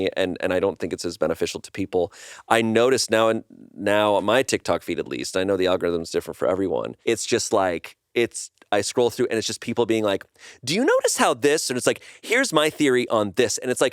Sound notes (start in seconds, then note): none